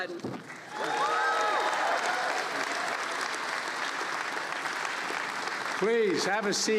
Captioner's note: applause